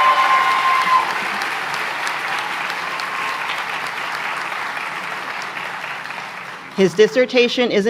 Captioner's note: applause